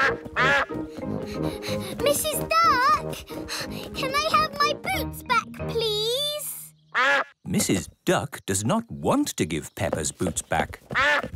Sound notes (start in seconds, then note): 0.0 quacks; 0.4 panting; 6.9 quacks